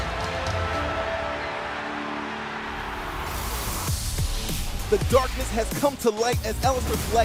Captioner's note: crowd cheering